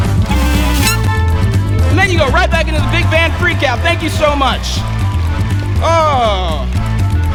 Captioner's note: applause